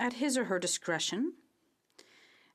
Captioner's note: speaking in French